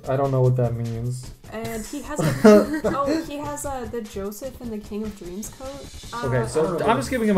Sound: laughing

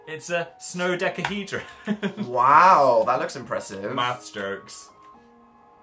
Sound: laughs

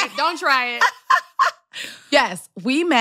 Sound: laughter

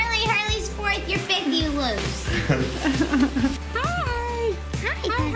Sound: laughs

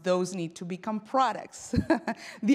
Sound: laughs

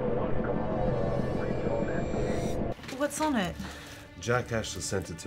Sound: drone whirs past

